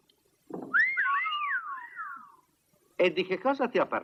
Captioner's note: all whistle